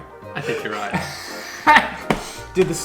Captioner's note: chuckles